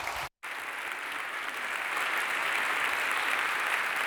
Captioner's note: applause